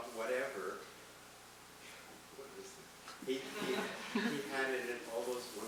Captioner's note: audience laughing